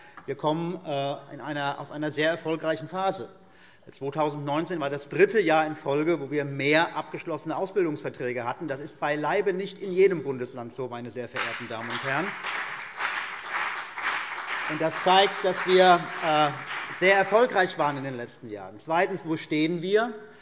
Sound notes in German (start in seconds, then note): 11.3 Beifall CDU und BÜNDNIS 90/DIE GRÜNEN